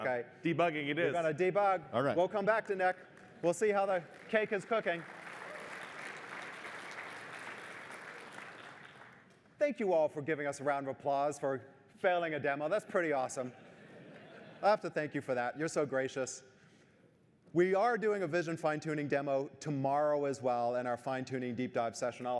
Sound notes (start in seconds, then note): 5.2 applause